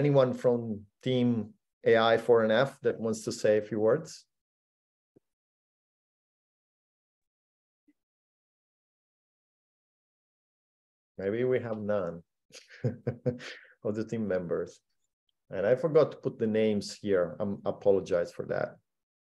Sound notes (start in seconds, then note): 12.6 chuckling